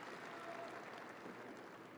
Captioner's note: audience applauding